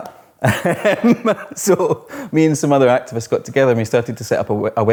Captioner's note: laughs